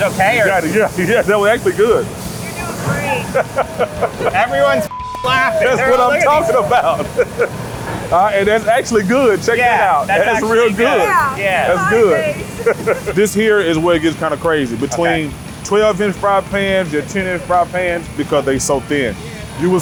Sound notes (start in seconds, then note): 3.0 laughter; 4.8 beep